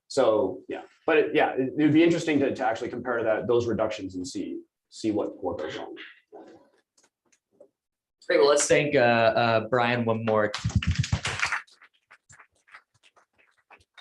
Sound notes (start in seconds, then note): 10.5 applause